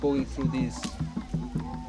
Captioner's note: chopping wood